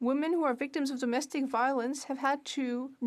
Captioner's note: speaking French